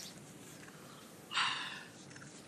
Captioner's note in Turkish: İç çekiş